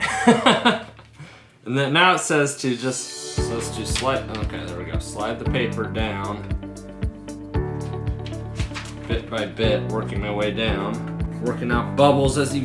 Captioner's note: laughing